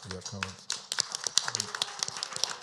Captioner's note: applause